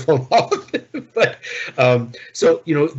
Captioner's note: laughing